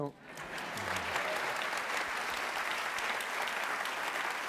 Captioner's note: applause